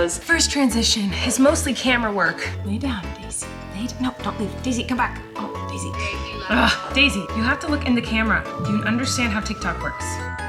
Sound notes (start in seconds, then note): 6.0 scoffing